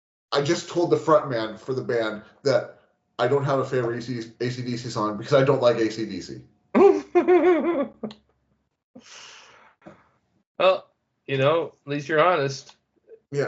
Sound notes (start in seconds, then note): 6.8 laughing